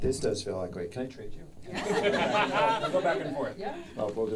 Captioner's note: audience laughing